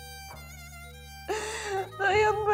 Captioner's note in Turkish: Ağlıyor